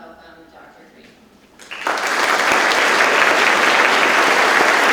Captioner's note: audience claps